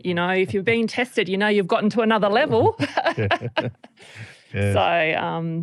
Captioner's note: laughter